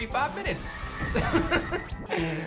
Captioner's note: chuckles